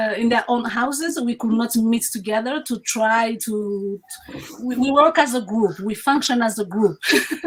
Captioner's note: laughs